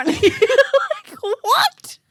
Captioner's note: laughing